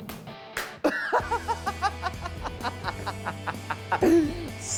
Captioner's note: laughter